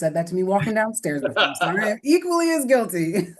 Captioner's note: laughter